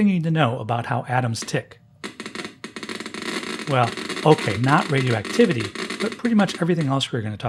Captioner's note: geiger counter goes off